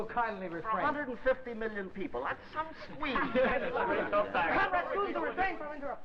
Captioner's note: laughter